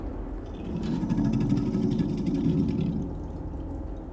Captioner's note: growling